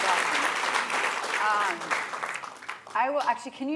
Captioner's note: applause